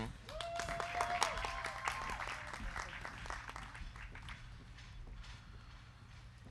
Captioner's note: crowd cheering; crowd clapping